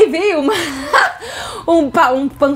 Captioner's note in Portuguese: risos